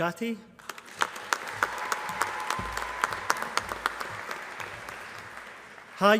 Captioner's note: applause